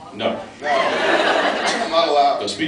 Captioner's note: laughs